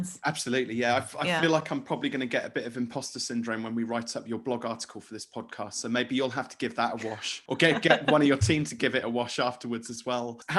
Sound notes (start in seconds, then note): 7.6 laughing